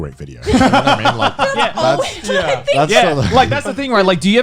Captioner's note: laughing